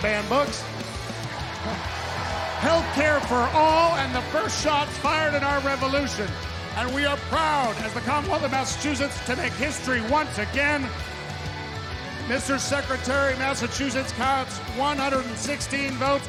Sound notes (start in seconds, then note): 6.4 cheers and applause